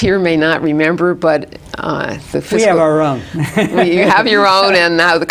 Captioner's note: laughs